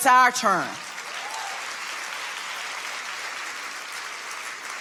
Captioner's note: audience applauding